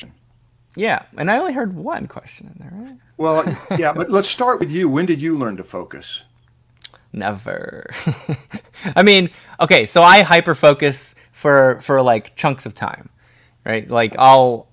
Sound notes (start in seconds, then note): 3.2 laughs